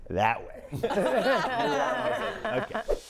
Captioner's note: all laughing